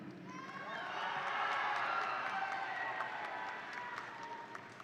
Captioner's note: audience cheering